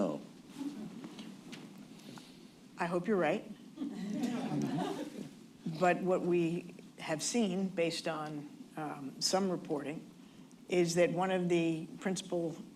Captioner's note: laughter